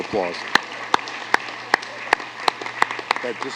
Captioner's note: applause